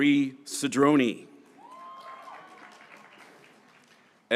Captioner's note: graduates cheering